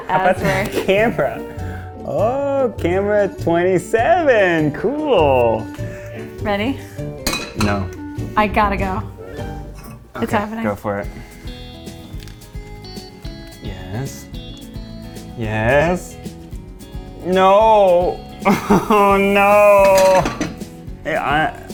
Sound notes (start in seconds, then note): 12.2 whimsical music; 18.4 laughs